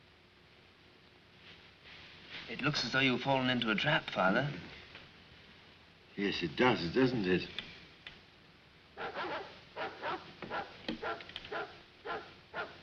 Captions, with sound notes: It looks as though you have fallen into a trap, Father. Yes, it does, doesn't it? [dogs barking]